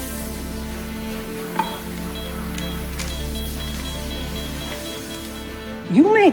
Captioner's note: heart monitor beeps faster